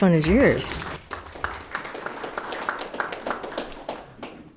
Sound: audience applauding

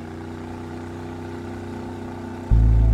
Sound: motor sound

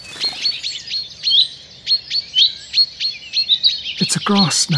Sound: birds alarm-calling

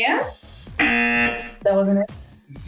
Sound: buzzer

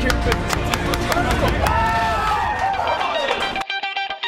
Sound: clapping, cheering

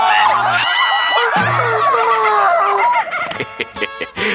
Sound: laughing; screetch

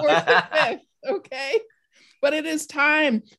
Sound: all laughing

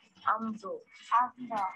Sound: speaking gibberish; girl speaking in foreign language

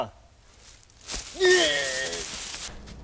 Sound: groans

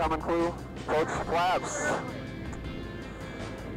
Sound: radio chatter

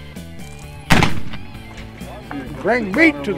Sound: gunshot

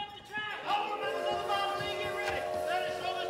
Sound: train whistle

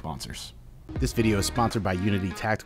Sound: male Voice

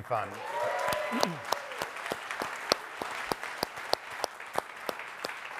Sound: audience applauding

